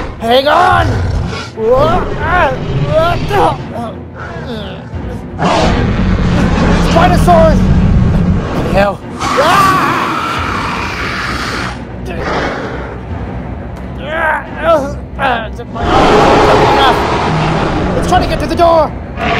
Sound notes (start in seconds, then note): 4.0 spinosaurus Growls; 10.3 spinosaurus Growls; 13.9 struggle Sounds; 15.8 spinosaurus Growls